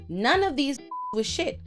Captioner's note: beep